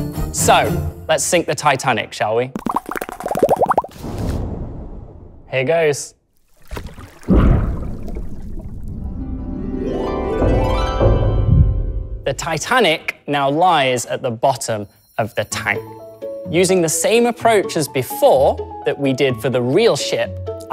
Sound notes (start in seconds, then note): 2.5 bubbly sound; 9.1 harp sounds